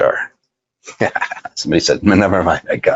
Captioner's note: laughs